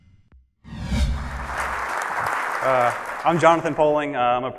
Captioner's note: audience claps